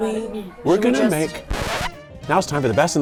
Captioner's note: records scratch